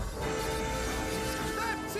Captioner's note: wheels Screech